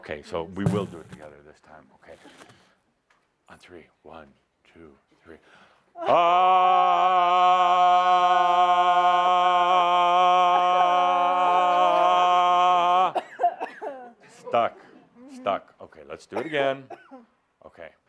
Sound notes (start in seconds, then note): 6.0 they both yell; 10.0 coughs